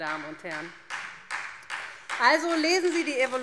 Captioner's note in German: Beifall SPD